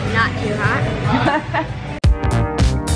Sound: laughter; up beat music

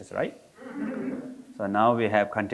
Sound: audience laughing

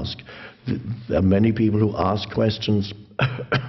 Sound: coughs

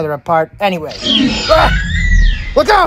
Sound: Raptor Squeals

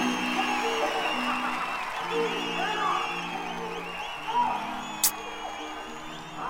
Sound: screams

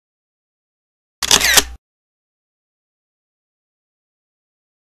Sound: camera shutters

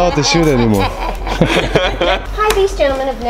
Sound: all laughing

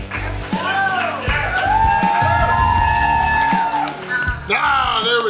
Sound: crowd whoops

